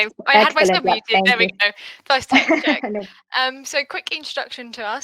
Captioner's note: laughing